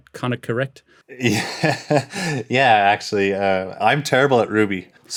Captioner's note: laughs